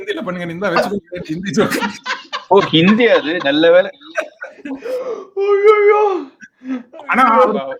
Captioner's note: laughs